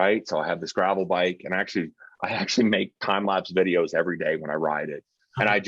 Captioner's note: chuckling